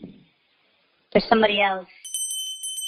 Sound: doorbell rings

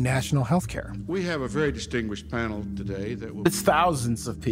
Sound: archival audio conference ambience

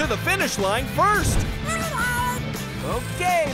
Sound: squeaking

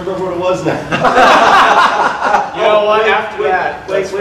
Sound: audience laughter

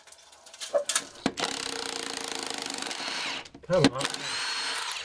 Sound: drill grating

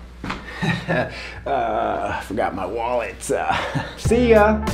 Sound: chuckles

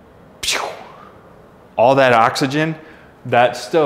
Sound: makes whooshing sound

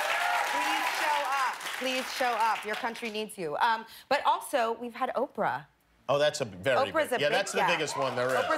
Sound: cheers and applause

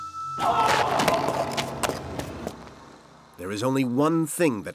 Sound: Lao Ai shrieking

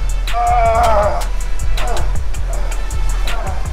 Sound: panting

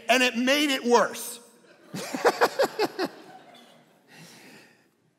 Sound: all laughing

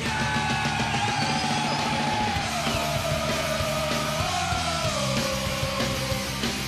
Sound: cheering

